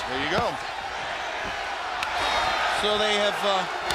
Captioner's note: crowd cheering